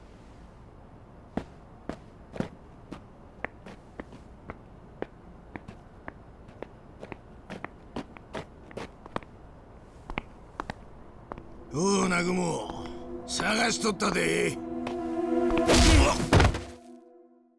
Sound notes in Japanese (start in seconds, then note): 13.5 うめき声